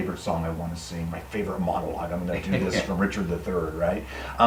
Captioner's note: laughing